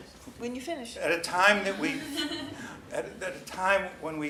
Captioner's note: laughs